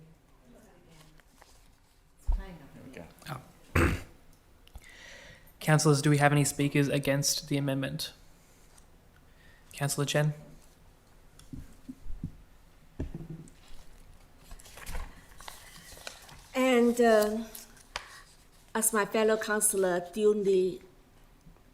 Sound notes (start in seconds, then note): 1.5 members chattering faintly; 3.7 clears throat